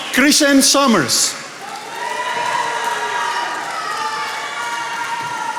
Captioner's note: attendees applauding